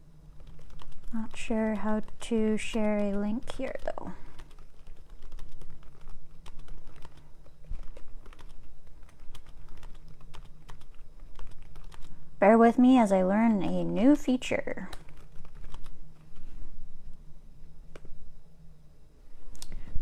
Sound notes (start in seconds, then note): 0.0 typing on keyboard; 4.2 typing on keyboard; 14.8 typing on keyboard